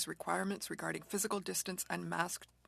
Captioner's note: speaking French